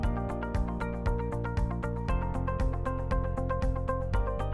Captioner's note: none